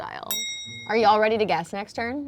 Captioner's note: bell clicking sound